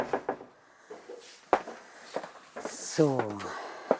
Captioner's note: audible breathing